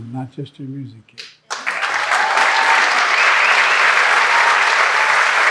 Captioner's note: audience clapping